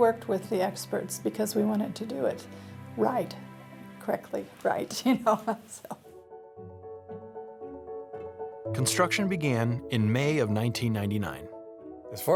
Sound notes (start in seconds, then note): 5.0 laughs; 7.9 piano music